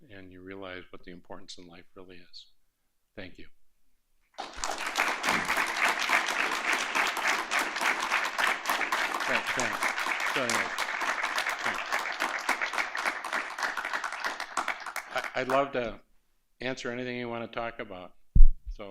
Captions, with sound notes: and you realize what the importance in life really is. Thank you. [APPLAUSE] I'd love to answer anything you want to talk about.